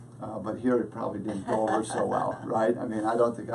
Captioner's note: laughs